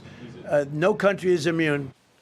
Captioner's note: laughter